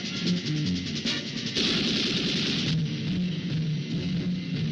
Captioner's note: gun shots firing